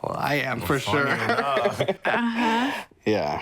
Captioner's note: laughing